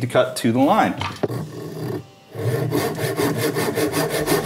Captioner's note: saw scraping